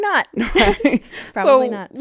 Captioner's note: both laughing